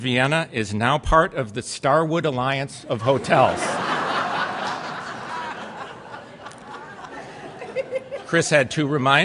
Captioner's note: laughter